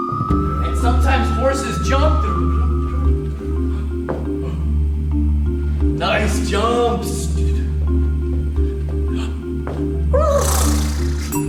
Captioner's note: horse noises